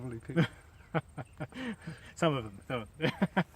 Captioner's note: laughing